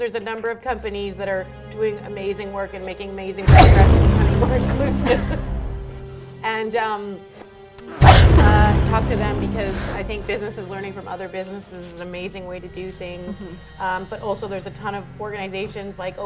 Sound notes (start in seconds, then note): 3.4 sneezes; 7.9 sneezes